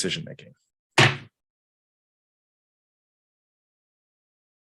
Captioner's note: gavel bangs